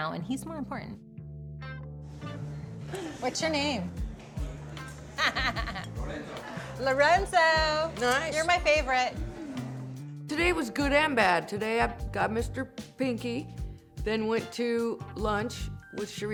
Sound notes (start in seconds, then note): 5.1 laughing